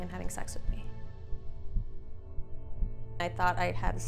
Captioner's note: heart beating